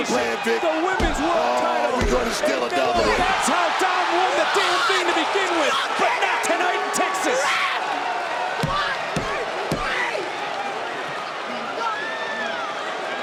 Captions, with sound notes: That's the plan, Vic. The Women's World Title. Gonna steal another one. That's how Dom won the damn thing to begin with. But not tonight in Texas! Ref! One, two, three! (hand slams)